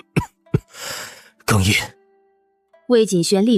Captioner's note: choking up